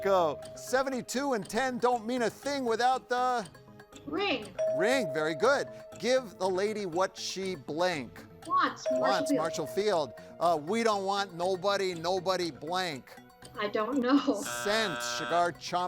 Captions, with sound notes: 72 and 10 don't mean a thing without the- - Ring. (tone chimes) - Ring, very good. Give the lady what she blank. - Wants. (tone chimes) from Marshall Fields. - Wants, Marshall Field. We don't want nobody, nobody blank. - I don't know. (buzzer sounds) - Sent. Cigar-chomping alderman,